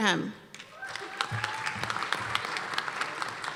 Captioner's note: applause